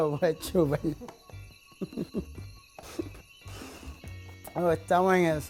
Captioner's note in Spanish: risas